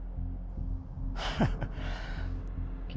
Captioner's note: Carlos laughing